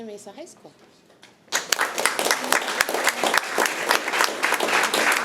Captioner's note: audience applauding